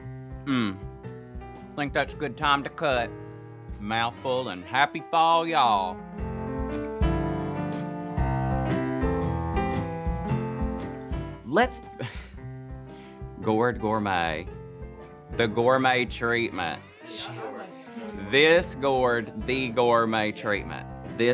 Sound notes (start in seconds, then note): 6.1 pleasant music; 11.7 laughing